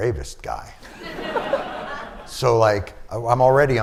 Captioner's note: laughter